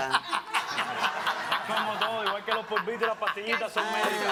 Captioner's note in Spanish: Risas